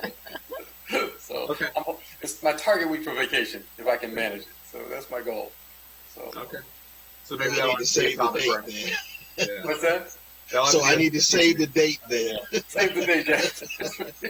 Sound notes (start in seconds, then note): 3.6 laughter